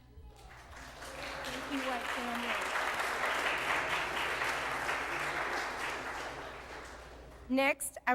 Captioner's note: applause